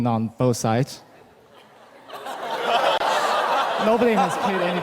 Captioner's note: laughter